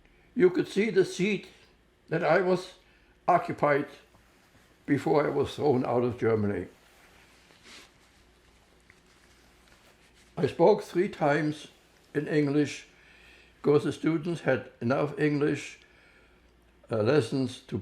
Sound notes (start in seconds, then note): 6.3 wiping nose